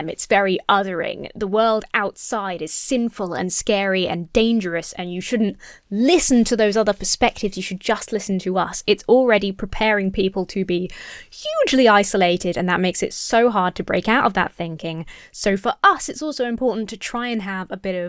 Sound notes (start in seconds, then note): none